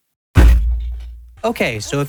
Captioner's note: desk slam